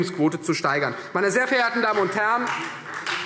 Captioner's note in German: Beifall Freie Demokraten